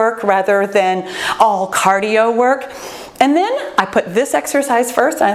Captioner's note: none